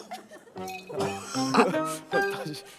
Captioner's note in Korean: 쿨럭